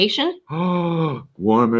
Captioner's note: gasping